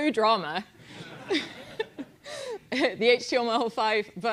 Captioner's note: laugh